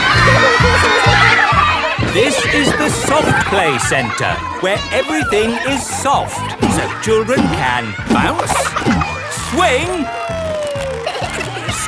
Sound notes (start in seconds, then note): 2.6 loudly over shouting; 10.6 giggles